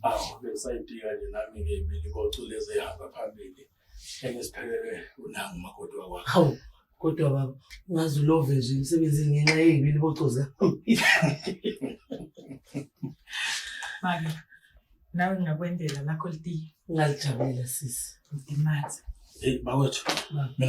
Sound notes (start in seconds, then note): 10.9 laughing